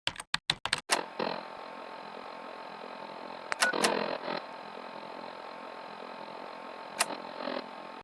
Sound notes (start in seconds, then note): 0.0 keyboard clacks; 0.9 static crackles